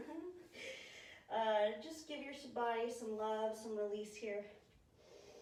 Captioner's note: laughs at self